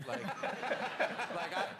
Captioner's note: audience laughs